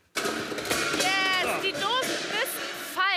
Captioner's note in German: Klirren